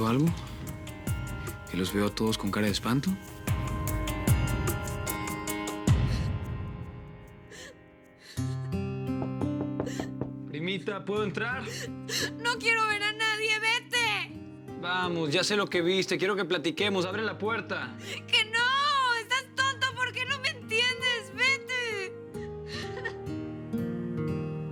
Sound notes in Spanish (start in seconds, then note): 7.3 Sollozos; 9.2 Toques en la puerta